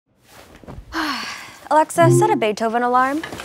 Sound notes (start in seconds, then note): 1.0 sigh